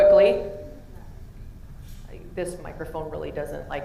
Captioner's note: microphone feedback